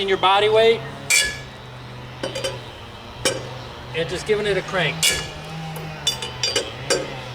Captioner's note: metal grinding sound after each turn of the wrench